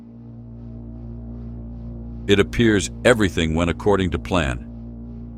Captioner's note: low humming